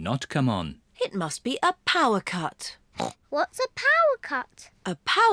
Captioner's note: grunts